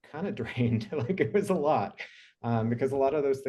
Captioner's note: chuckling